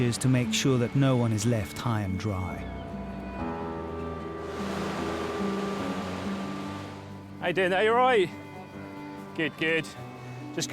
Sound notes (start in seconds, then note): 3.4 gentle music continues; 4.4 water sloshes